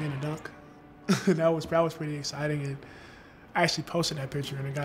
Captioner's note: laughs